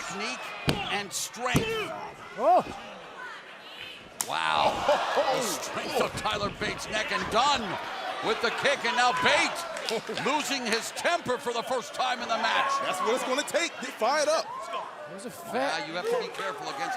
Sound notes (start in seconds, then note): 4.1 crowd cheering